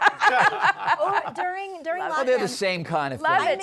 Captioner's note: laughter